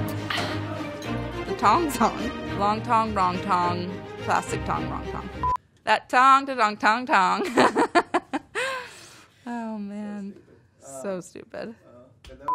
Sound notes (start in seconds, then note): 2.0 chuckles; 7.4 laughs